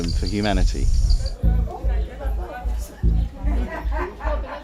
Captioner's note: chatter